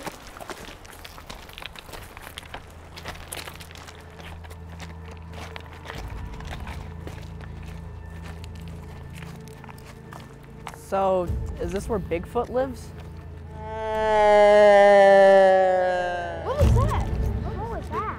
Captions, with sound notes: So, is this where Bigfoot lives? [Whine] What was that?